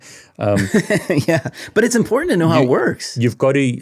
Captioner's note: chuckles